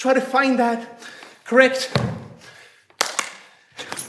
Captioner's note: snapping